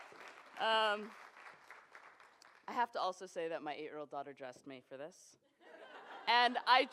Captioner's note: applause